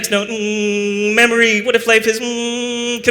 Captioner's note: hum